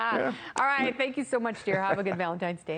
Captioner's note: laughter